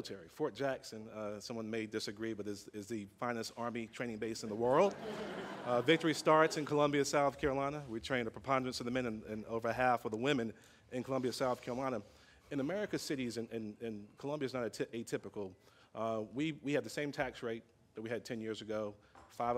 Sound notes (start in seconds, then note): 4.7 laughter